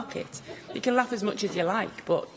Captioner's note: laughter